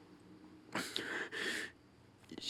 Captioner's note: sniffles